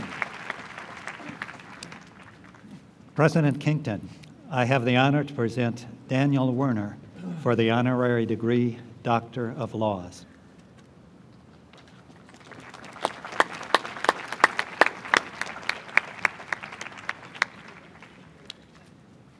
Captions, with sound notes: - President Kington, I have the honor to present Daniel Werner for the honorary degree Doctor of Laws. (applause)